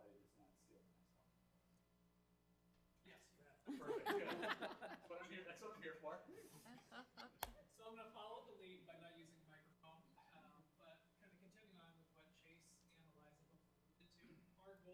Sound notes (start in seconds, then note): 3.6 members laughing; 6.4 member laughing